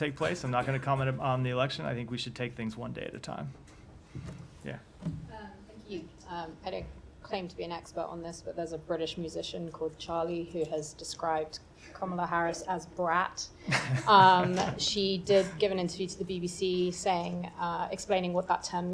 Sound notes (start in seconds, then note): 13.6 laughter